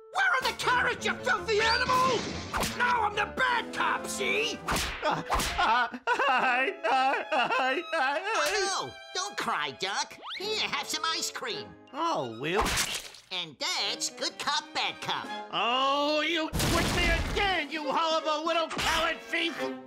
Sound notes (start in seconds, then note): 4.6 hand slaps; 5.5 Elmer sobbing; 12.6 hand whacks